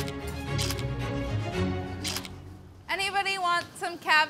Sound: camera shuttering

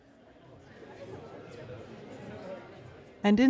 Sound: indistinct conversation

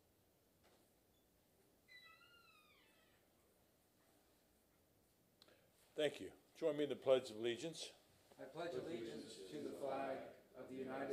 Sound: moment of silence

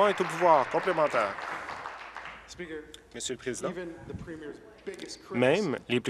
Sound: applause

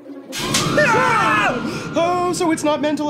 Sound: ghost screaming, both men yelling

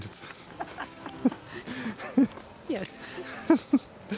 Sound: laughing

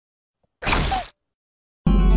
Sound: squeak

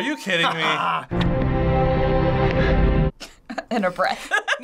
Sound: orchestral music; person gasps; chuckles

